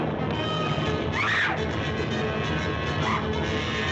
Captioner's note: screaming